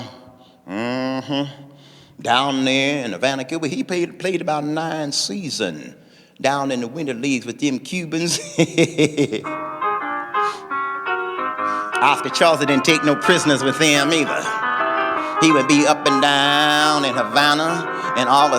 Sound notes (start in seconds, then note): 8.3 laughing; 9.0 instrumental music